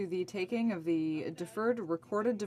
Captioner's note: speaking french